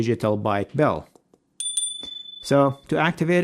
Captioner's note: bell chiming